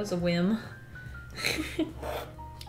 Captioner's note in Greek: χαχανητά